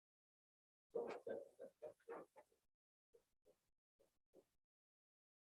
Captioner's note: speaking distantly